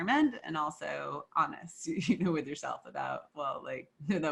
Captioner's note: chuckles